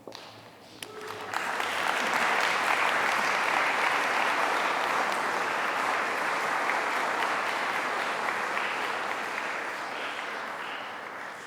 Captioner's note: applause